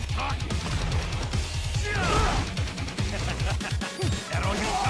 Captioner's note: grunting; laughs